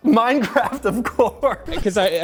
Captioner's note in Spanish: risas